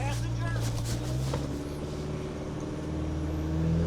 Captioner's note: engine whirring